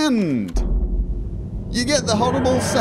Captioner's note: TARDIS sounds